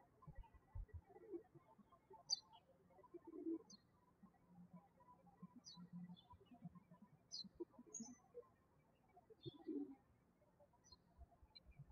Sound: birds chirping

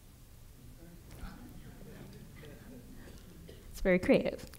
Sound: audience chuckling

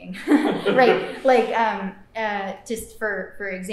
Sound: laughter

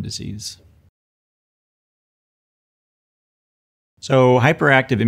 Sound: silence

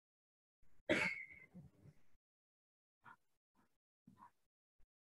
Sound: coughs

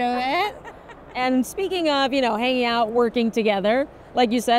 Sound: laughs

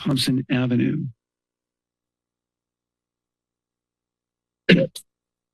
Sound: pause

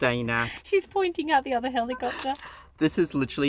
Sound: giggles

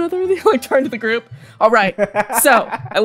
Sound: laughter

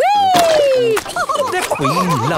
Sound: all laughing

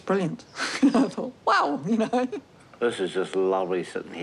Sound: chuckles

